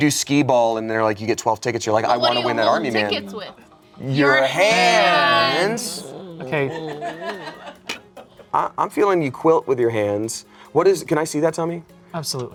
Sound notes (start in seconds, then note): 5.9 laughs